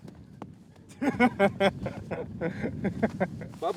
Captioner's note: laughing